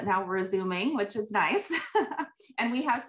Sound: laughs

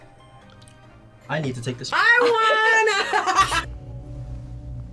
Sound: laughs

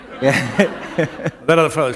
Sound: laughter

